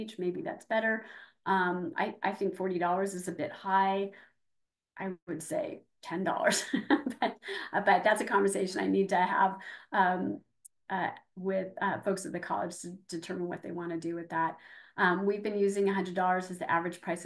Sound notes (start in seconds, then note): 6.4 laughing